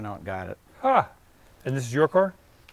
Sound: chuckles

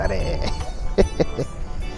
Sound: laughs

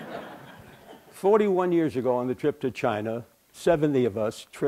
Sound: laughter

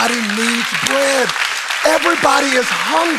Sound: congregation applauding

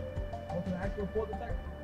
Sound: bell chimes; footsteps

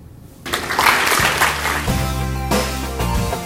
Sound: audience applause

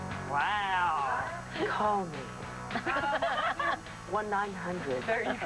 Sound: sultry voice

